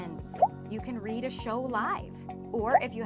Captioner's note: bubble pops